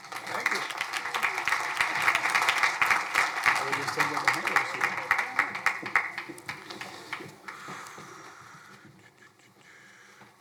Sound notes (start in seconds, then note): 0.0 crowd applauding; 4.4 faintly speaking